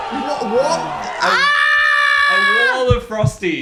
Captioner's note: screams